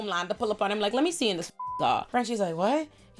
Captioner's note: beep